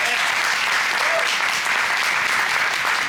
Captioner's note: applause